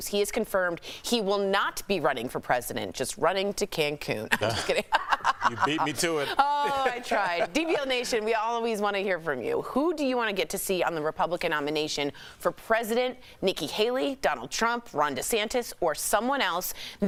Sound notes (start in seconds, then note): 8.8 laughter